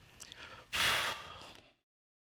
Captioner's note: exhales